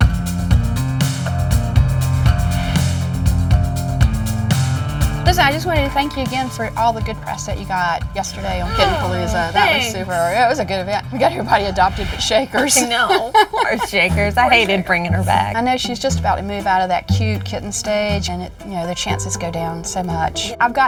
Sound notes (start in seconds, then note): 0.2 upbeat music; 12.5 laughs